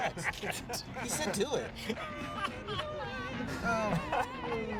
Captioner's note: laughs